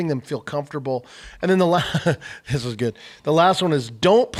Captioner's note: laughs